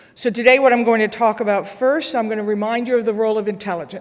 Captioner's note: none